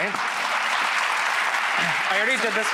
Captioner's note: audience cheers